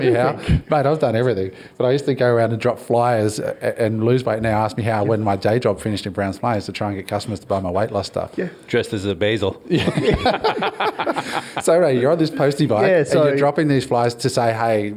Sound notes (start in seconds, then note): 9.7 all laugh